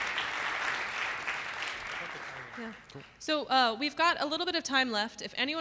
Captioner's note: applause